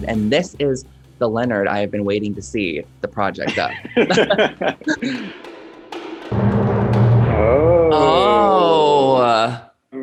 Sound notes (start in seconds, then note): 3.4 both laughing